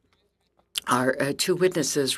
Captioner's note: speaking French